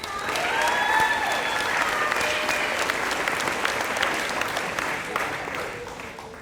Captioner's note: applause